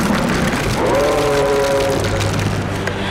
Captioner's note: creature Roaring